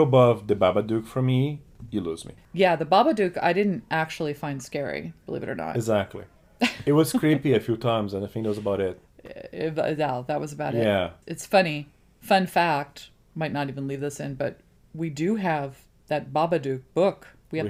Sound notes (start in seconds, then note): 6.6 laughs